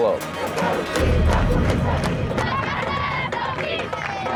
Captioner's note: people protesting